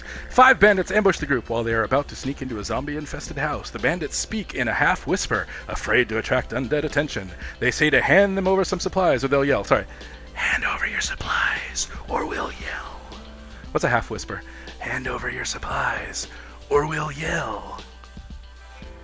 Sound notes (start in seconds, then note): 10.5 whispering; 15.0 half whispering